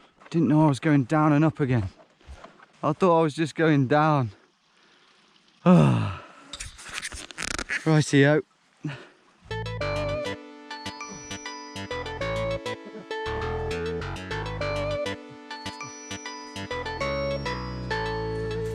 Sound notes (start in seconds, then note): 5.6 sighs; 10.2 cheerful music